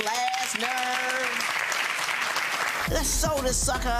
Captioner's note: audience applauding